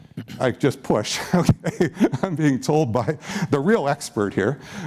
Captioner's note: chuckles